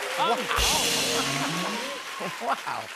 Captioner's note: cheers and applause